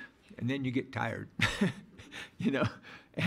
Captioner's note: laughing